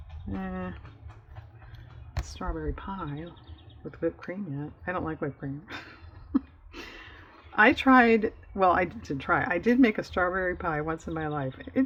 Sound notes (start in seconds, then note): 5.6 laughs